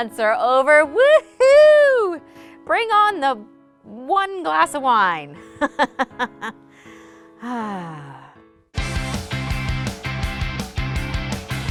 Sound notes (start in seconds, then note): 5.6 chuckles; 8.8 upbeat music